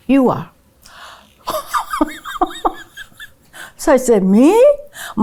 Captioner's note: laughing